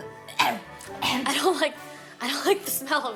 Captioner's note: sniffing; coughing